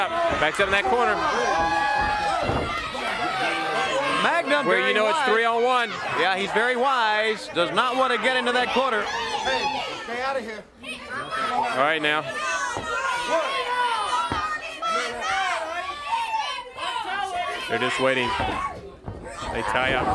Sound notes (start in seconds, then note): 4.4 crowd cheering; 13.2 crowd chatter